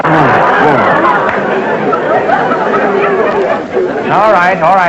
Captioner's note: audience laughter